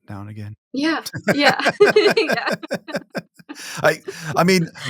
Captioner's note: laughing